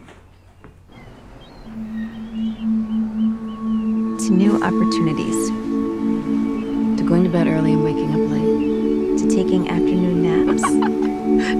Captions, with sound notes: [seagulls squawking] To new opportunities. To going to bed early and waking up late. - To taking afternoon naps. - [laughs]